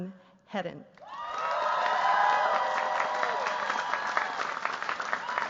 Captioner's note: cheers, applause